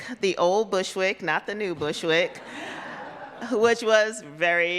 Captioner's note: audience laughs